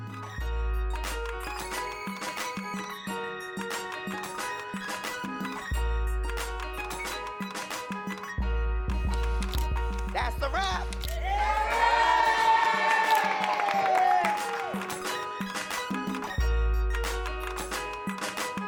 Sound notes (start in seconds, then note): 0.1 intriguing music; 11.0 all cheering; 14.8 intriguing music